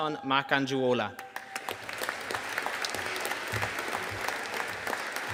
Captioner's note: audience applauding